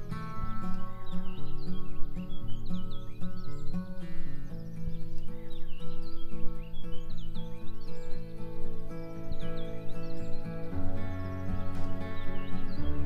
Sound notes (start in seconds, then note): 1.8 birds chirping